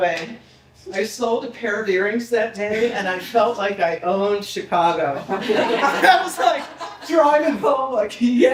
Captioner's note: people laughing